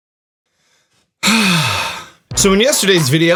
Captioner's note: deep sigh